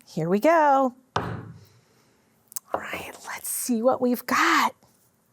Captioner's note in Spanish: golpes de martillo